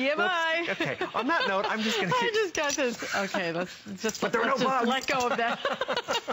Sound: laughter

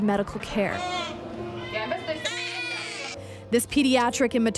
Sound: baby crying

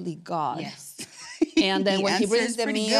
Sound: laughs

